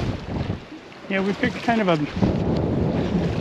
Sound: reel spinning; click

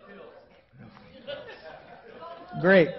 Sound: crowd murmuring

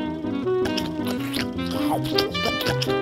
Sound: chewing

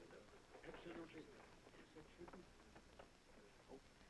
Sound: group chattering

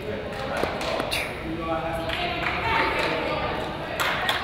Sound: crowd applauds; players yell

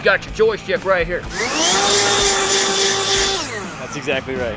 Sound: leaf blower running

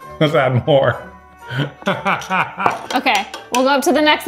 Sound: laughing; glass thudding

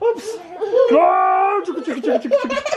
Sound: grunting; laughing

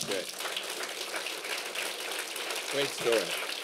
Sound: applause

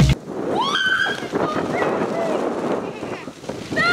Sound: screaming playfully

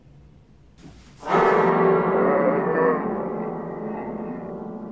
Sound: body gets pushed back, monster loudly groaning

